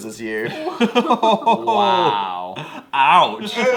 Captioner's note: laughs